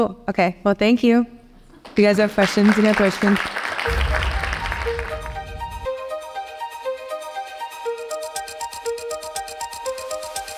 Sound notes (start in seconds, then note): 3.8 audience applauding